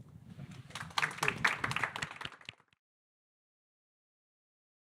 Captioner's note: audience clapping